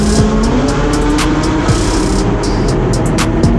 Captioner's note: engine roaring